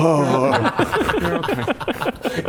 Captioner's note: uncaring laugh